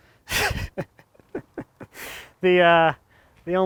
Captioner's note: laughs